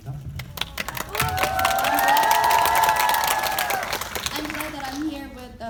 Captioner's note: audience cheering